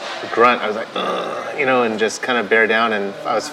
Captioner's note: grunts